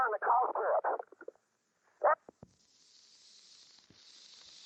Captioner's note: audio cutting out; static crackling